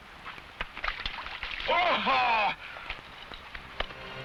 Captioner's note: water splashing; man shouts; somber music